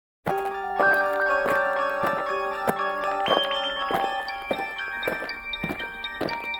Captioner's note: footsteps; dramatic music